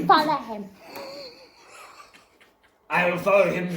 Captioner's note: friends wheezing